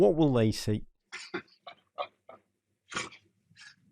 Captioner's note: tom chuckles